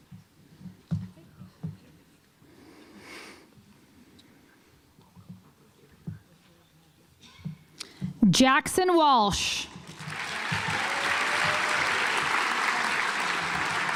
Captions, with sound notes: Jackson Walsh (audience applauds)